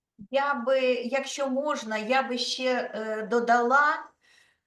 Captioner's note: speaking Ukrainian